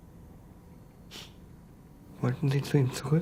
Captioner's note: sighs